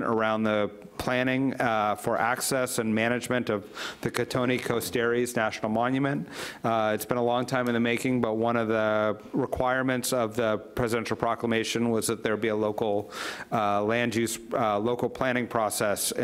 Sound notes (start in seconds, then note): none